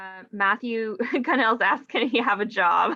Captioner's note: chuckles